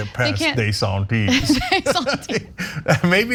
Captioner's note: laugh